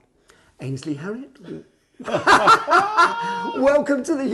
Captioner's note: men laughing